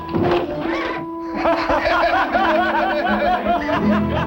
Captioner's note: laughing